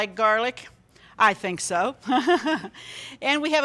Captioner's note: chuckling